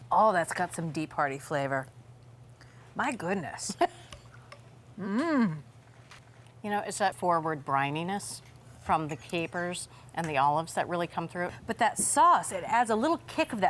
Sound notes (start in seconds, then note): 3.8 laughs